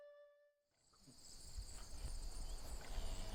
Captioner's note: crickets chirping